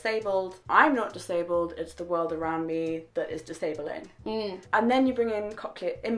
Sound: hmmm

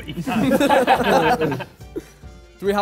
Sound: Sidemen laugh

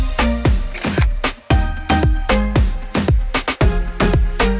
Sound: camera shutter clicks

